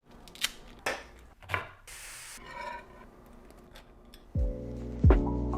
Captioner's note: cooking sounds